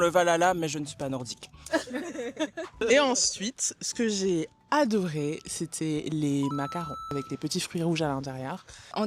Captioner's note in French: rires